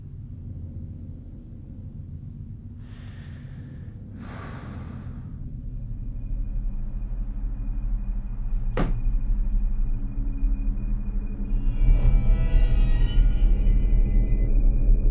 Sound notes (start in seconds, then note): 4.1 sighing